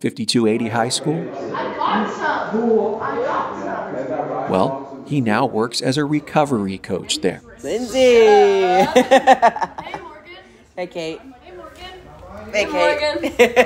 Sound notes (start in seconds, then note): 7.7 soundbite inside 5280 high school, young people laughing, greeting each other; 11.1 laughter